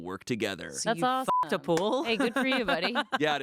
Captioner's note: beep